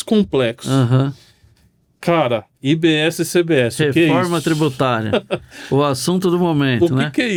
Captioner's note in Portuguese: risadas